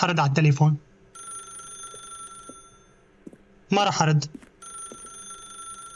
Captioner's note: phone ringing